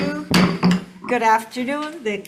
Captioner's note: gavel bangs